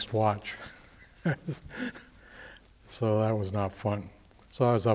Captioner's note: laughs